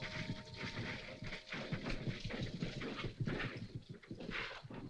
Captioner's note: horse trotting